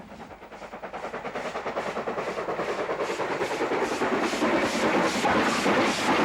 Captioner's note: train passing